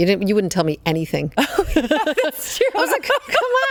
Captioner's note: both laughing